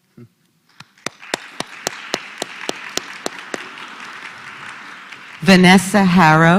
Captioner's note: applause